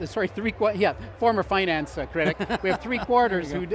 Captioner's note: chuckling